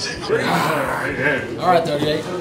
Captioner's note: laughing; growls